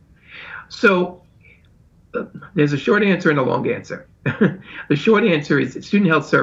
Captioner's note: chuckles